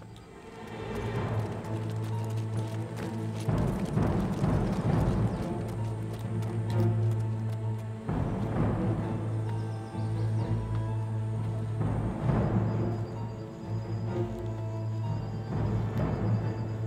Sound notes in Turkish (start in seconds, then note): 0.5 At nalı sesleri; 8.6 Müzik - Gerilim